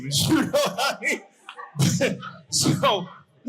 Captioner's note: audience laughing